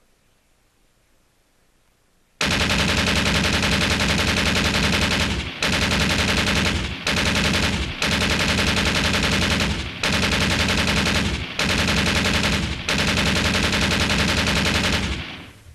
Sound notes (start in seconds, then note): 2.4 sound effect of machine gun